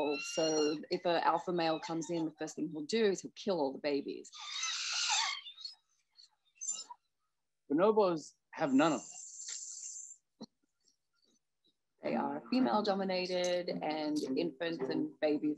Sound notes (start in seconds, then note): 4.3 bonobos screeching